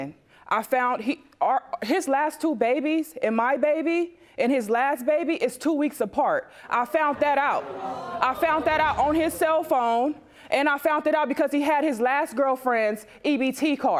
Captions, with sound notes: I found... His last two babies, and my baby and his last baby, is two weeks apart. I found that out. (AUDIENCE GASP) I found that out on his cell phone and I found it out because he had his last girlfriend's EBT card.